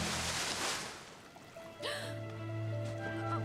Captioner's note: gasp